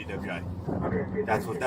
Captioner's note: radio chatter